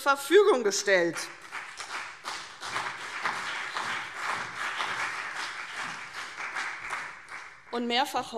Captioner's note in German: Beifall CDU und BÜNDNIS 90/DIE GRÜNEN